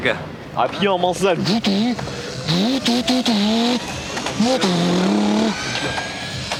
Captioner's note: doing his best to mimic Drift cars accelerating